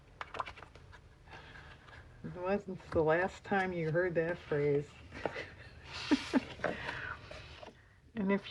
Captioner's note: laughs